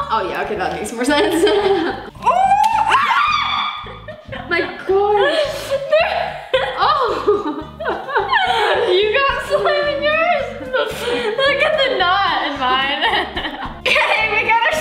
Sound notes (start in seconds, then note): 2.0 squeals; 2.3 laughs